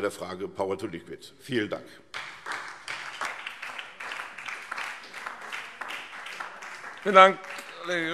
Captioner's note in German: Beifall SPD